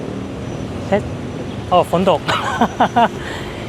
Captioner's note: it’s raining